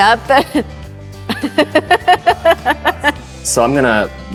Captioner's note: chuckling